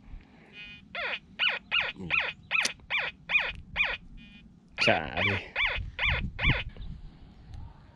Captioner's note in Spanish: sonidos rechinando del detector